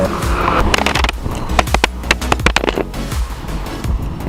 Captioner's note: clattering